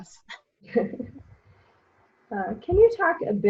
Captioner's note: giggles